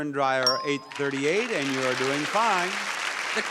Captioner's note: counter beeps; audience applauds